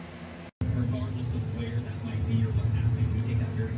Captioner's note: on TV